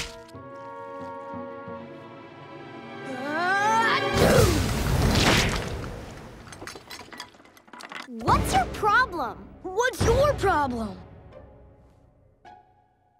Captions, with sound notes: [sneezing] What's your problem?! What's your problem?